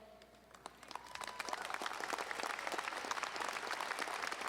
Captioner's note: audience applauding